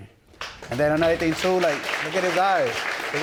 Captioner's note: audience applauding